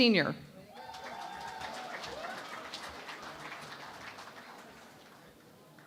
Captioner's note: cheering and Applause